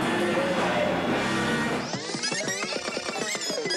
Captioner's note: tape whirrs